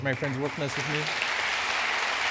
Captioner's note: applause